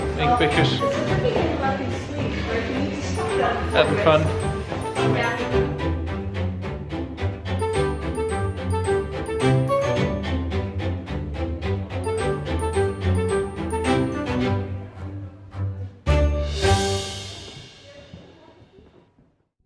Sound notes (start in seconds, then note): 4.6 happy String Music; 4.6 soft background chatter